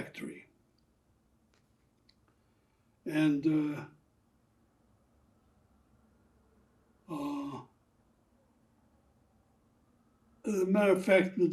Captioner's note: pauses 6 seconds